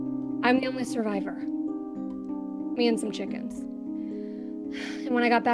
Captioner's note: sighs